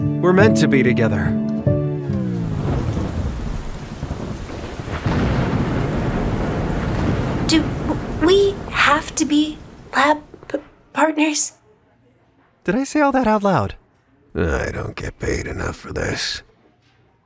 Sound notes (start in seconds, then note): 1.7 music distorts; 2.3 terrifying storm sounds